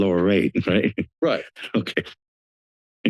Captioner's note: chuckles